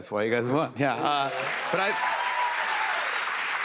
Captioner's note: cheers and applause